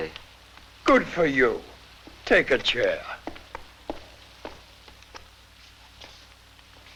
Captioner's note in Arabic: خطوات قوية